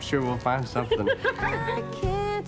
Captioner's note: laughing